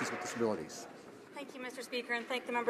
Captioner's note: some Applause